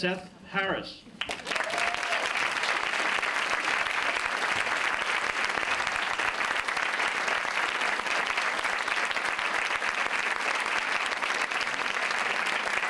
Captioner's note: applause